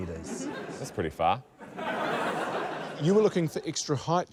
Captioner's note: laughter